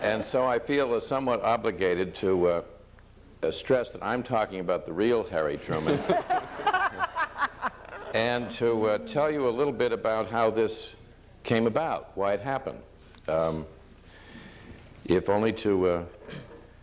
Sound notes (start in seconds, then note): 5.6 audience laughs